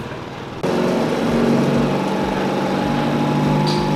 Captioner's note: engine cranks loudly; motor running